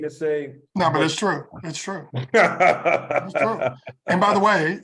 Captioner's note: laugh